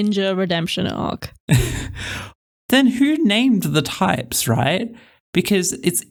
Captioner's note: laugh